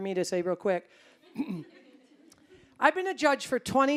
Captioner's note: audience chuckling